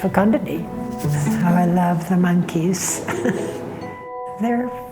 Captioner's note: chuckles